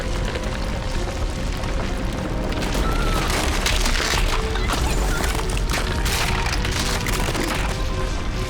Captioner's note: gunshot